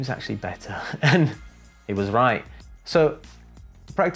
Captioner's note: chuckles